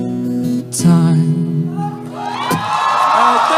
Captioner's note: cheering